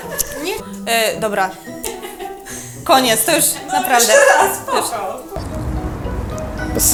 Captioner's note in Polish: rozbawiony głos w tle